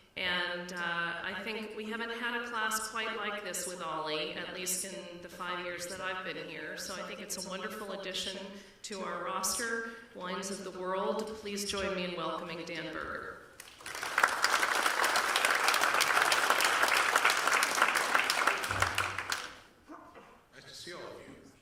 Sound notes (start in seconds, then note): 13.6 applause